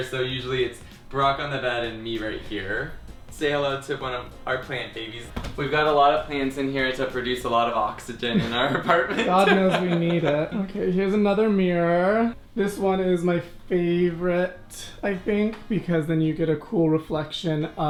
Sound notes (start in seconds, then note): 8.3 laughs